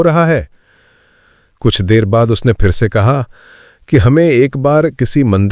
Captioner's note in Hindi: गहरी सांस लेने की आवाज़; अचानक ज़ोर से सांस लेने की आवाज़